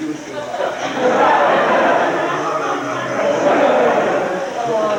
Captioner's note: crowd laughing